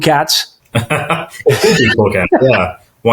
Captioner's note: chuckling